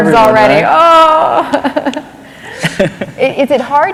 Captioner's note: laughter